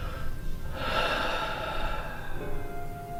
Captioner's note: heavy Sigh